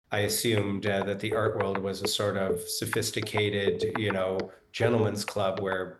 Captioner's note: scribbling